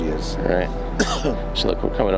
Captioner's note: coughs